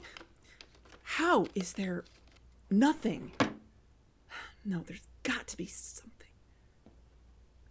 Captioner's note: drawer close